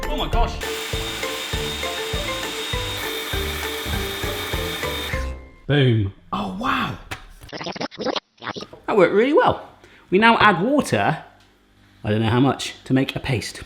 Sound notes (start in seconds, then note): 0.6 blender grinding